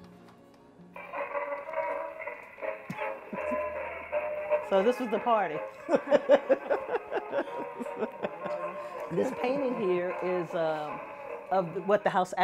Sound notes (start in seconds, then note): 6.0 laughs